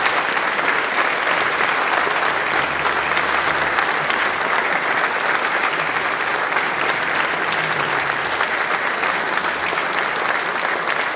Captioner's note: applause